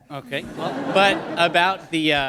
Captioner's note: laughter